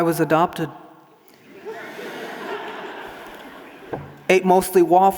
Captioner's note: audience laughing